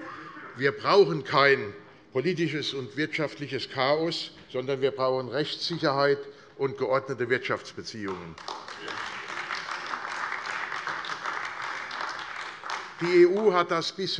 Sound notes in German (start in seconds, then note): 8.0 Beifall AfD